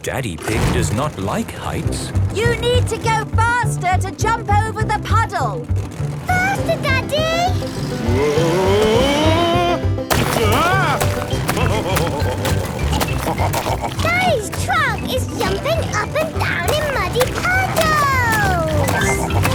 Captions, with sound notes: - Daddy Pig does not like heights. - You need to go faster to jump over the puddle! - Faster, Daddy! - Woah! Ah! (laughing) - Daddy's truck is jumping up and down in muddy puddles!